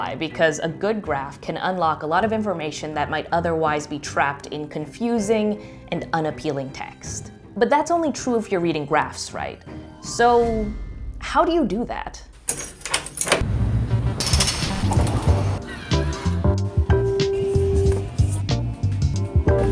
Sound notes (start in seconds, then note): 12.5 lock opening; 14.1 doors sliding; 15.7 sanitizer dispensing